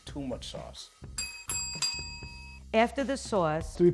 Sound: bells ring

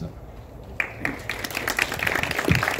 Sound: applause

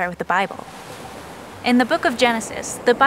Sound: waves crash

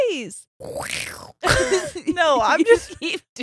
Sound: quacking thickly

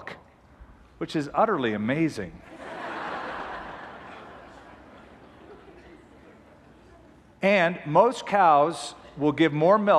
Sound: laughter

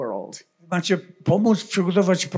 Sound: foreign language

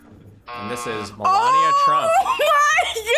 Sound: buzzer rings

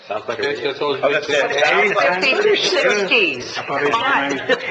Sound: commissioners conversing

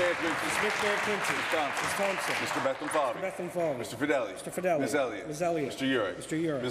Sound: applause

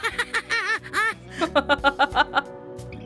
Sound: chuckles

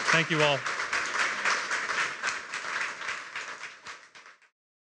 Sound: applause

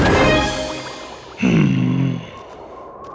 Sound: sighs

